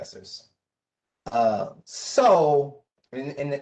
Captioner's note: professor speaking